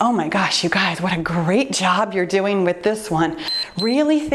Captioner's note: timer beeps